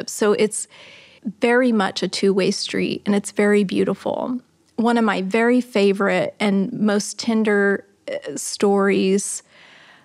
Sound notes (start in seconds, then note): none